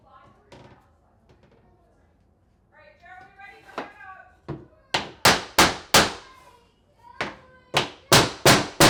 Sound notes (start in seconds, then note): 5.0 hammer pounding